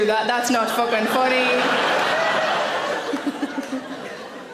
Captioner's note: audience laughing